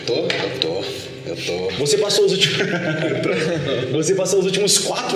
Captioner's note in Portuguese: risada